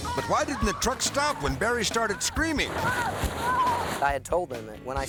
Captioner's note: screaming